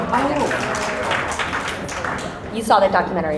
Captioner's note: audience applause